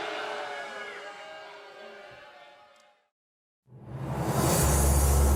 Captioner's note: cheers and applause